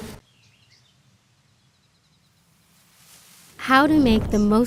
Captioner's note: birds chirping